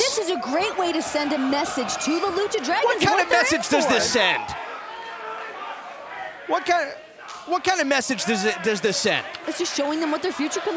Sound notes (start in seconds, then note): 5.8 crowd cheering